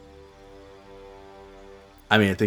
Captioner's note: silence